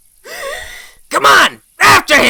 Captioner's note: gasps